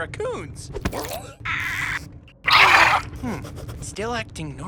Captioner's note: raccoon gurgling